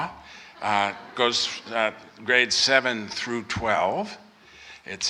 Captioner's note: off microphone